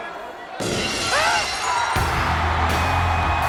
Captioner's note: glass shattering; crowd cheering; rock music